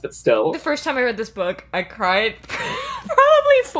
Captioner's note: laughing